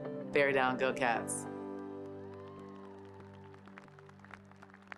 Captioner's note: cheers and applause